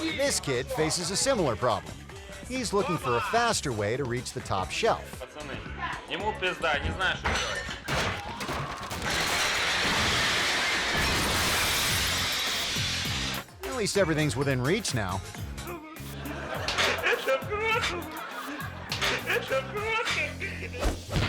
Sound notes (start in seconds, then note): 6.2 man speaking in foreign language; 9.5 plates shattering; 16.9 man speaking in foreign language